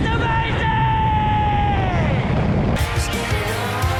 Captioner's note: air Turbulence; voice echoes